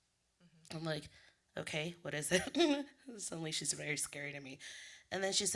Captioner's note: laughs